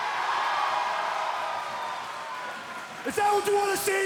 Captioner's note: crowd chatter